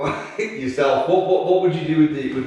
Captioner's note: laughing